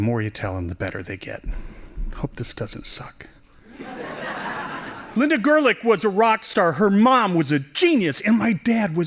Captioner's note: laughing